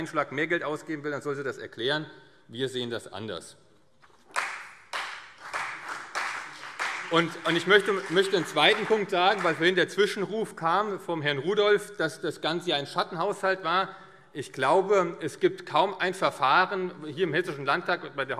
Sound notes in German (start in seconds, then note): 4.2 Beifall CDU und vereinzelt BÜNDNIS 90/DIE GRÜNEN